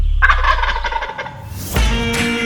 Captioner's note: turkey gobble; country music